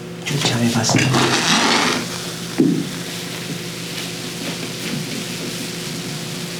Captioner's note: liquid slurping